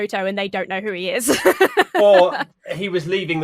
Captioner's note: laughs